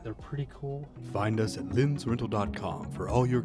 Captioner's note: male Voice